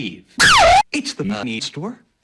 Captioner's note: Mrs. Pepper's scream, distorted and reverbed